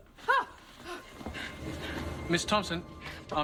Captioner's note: Louise yelps